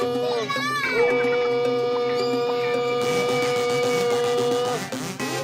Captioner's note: yells and screams